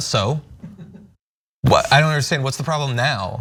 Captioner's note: laugh